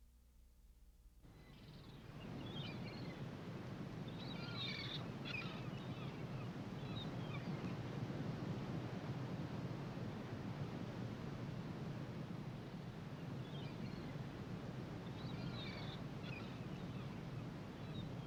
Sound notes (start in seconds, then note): 1.4 ocean Bird Sounds